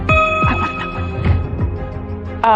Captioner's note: quietly